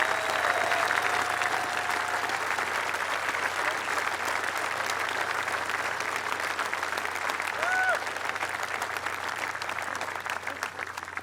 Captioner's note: applause